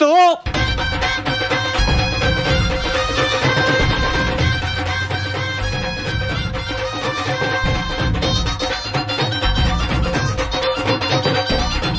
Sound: beating

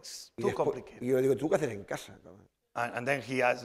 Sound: speaking spanish

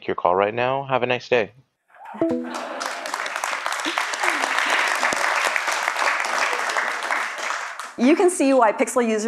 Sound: applause

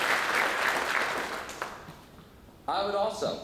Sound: applause

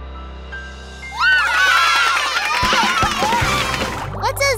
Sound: cheering

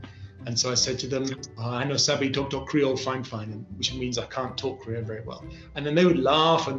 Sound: speaking krio

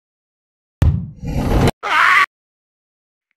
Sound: wood hit

